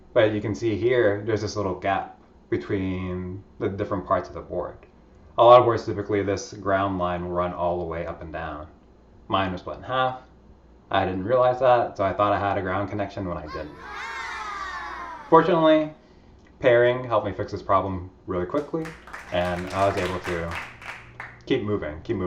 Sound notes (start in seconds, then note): 13.4 children exclaim in understanding; 18.5 clapping sounds play